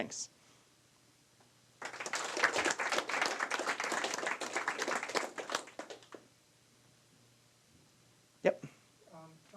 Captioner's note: applause